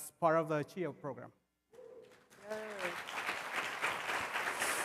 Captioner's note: applause